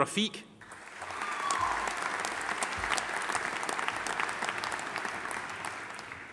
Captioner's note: audience applauding; audience cheering